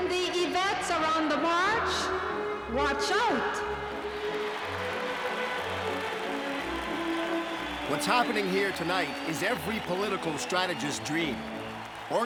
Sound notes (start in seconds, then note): 0.0 ambient music; 3.6 audience applauding